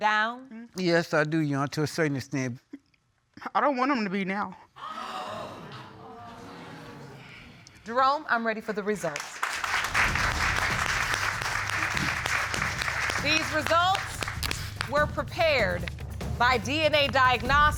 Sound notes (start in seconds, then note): 4.2 audience gasping; 9.1 applause